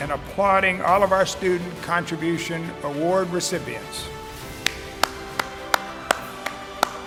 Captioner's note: applauds